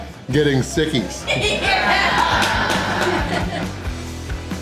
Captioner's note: kid and crowd laughter